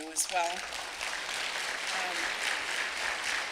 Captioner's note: clapping